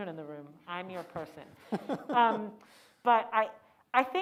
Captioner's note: laughing